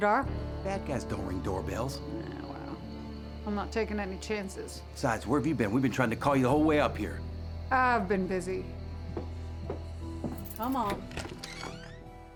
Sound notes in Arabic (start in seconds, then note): 9.0 خطوات; 10.3 يفتح الباب